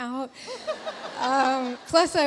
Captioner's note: audience laughs; laughs